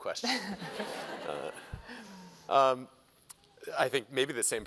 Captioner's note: laughter